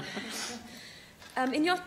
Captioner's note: laughter